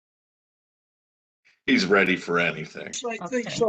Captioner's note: laughs